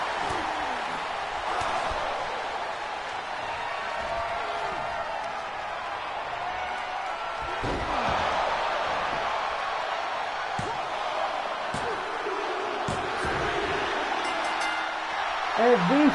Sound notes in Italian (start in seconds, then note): 13.8 Applauso